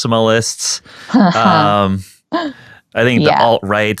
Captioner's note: laughing